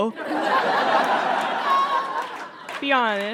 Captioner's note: audience laughs heartily